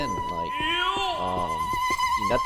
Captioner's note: iiioooohhh